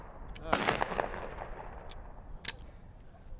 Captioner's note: gun shots